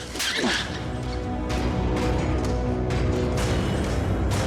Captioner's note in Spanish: bofetada